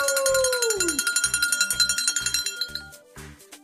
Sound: bell ringing

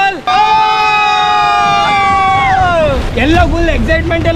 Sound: all cheering

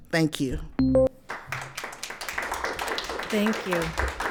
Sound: attendees applauding

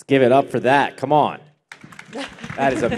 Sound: applause

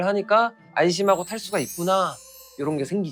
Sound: sparkling sound effect

